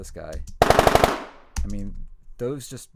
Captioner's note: gun bangs multiple times